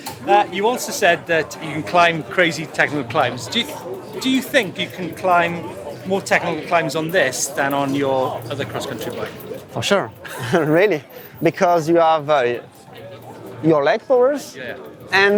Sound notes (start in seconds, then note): 10.2 laughter